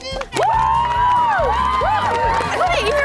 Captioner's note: cheering